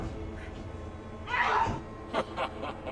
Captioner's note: intense music; Linda yelping; leprechaun laughing